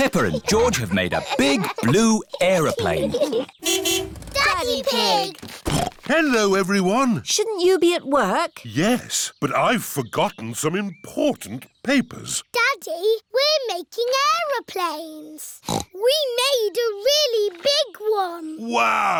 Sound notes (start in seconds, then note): 0.0 both giggling; 3.6 horn honks; 5.6 snorts; 15.6 snorts